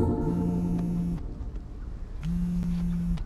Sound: incoming Vibration

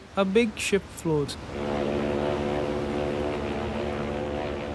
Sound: ship's horn blows

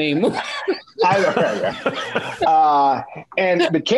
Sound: laughing

